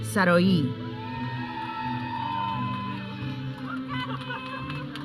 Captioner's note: audience cheering